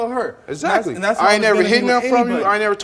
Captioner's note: overlapping chatter